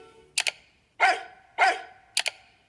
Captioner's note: dog barks